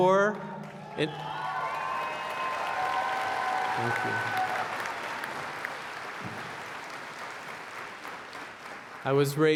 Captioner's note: applause